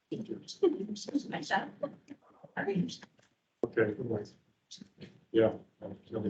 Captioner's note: indistinct chatter